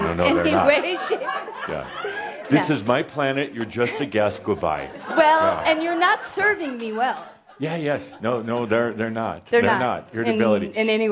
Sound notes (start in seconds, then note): 3.8 laughter; 6.9 more chuckles